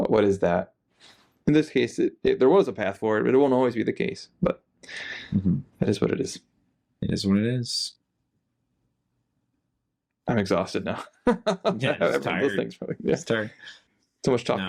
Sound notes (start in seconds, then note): 10.9 laughing